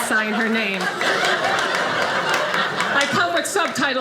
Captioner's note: audience laughing